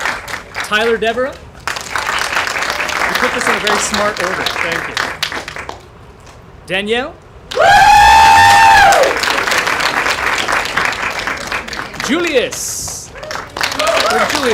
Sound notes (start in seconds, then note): 7.5 cheering